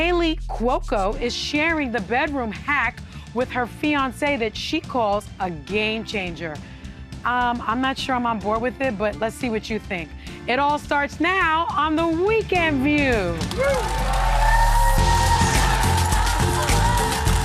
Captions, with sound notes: Plus, Kaylee Cuoco is sharing the bedroom hack with her fiance that she calls a game changer. I'm not sure I'm on board with it, but let's see what you think. It all starts now on the weekend view. (audience cheering) (upbeat music)